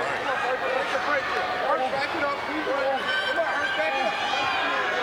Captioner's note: crowd murmuring